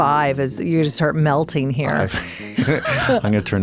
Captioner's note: chuckles